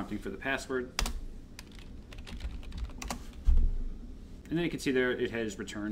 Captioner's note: keyboard typing